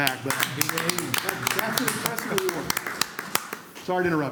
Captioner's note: applause